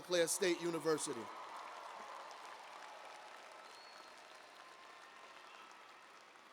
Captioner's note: cheers and applause